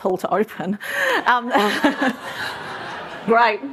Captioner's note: laughter